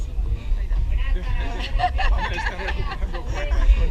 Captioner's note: laughter